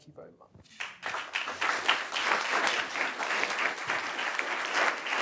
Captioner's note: applause